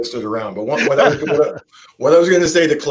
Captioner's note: laughing